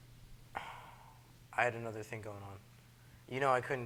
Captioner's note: sighs